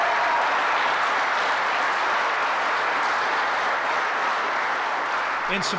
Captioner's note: applause